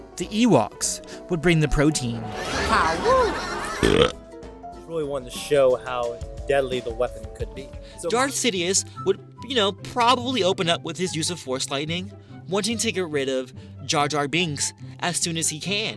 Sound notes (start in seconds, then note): 2.4 Salacious Crumb laughs; 3.6 narrator burps